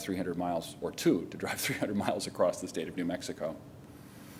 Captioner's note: laughter